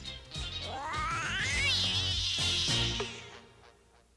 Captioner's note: m.a.d. cat screeches